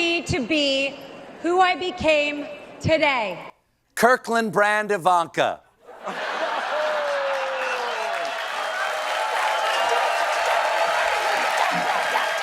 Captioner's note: laughter